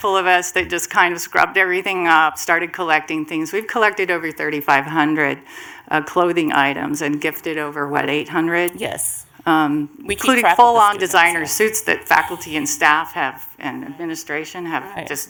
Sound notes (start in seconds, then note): 10.2 multiple voices